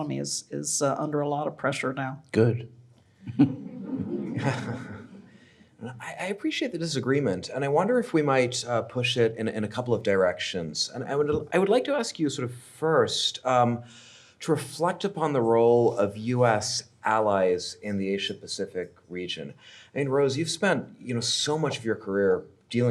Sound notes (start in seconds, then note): 3.3 audience laughing